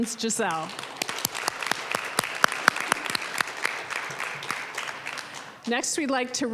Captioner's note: applause